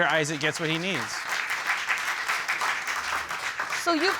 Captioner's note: audience applauding